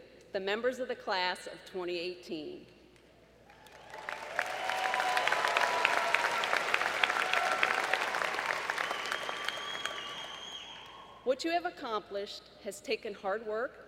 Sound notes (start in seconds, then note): 7.4 applause